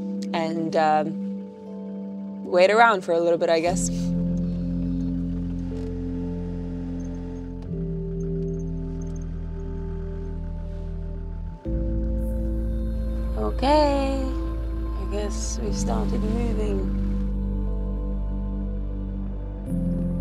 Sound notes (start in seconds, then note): 4.5 car engine revving; 4.5 pensive music; 17.4 pensive music